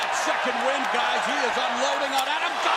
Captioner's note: crowd cheering